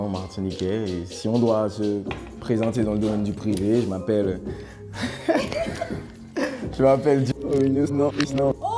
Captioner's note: laughs